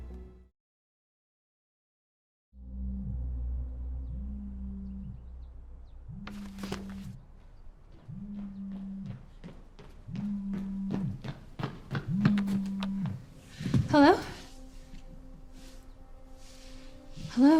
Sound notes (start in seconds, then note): 3.9 phone buzzing